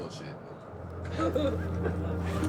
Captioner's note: laughing